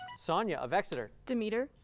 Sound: buzzer

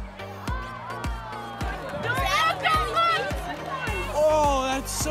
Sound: cheering and yelling

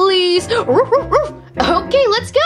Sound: excitedly barking

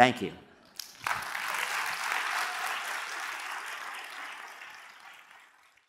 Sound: applause

